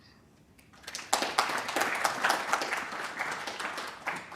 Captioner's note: applause